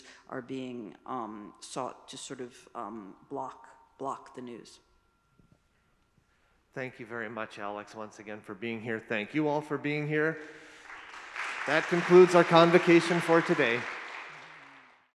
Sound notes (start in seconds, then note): 13.8 audience clapping